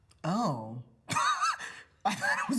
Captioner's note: laughs